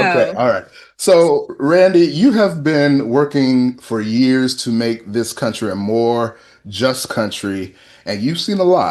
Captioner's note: laughter